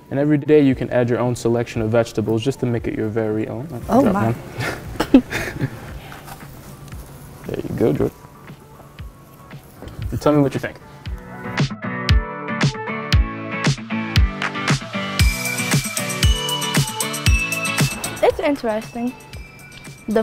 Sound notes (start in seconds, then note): 4.6 chuckles; 11.4 bright upbeat music